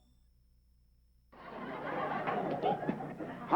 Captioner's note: laughter